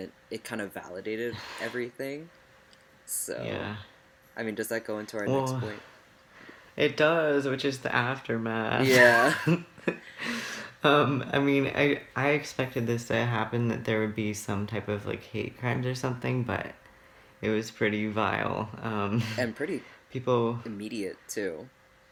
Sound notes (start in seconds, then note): 8.8 laughs